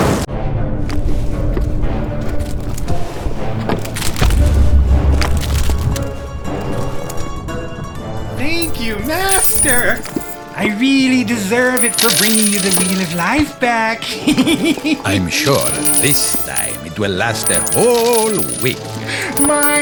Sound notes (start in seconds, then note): 0.3 dark orchestral music; 0.4 lava splatters; 8.6 coins clink; 14.0 laughs